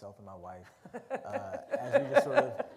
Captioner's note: laughter